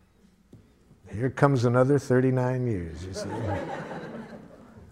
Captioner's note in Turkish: Gülüşmeler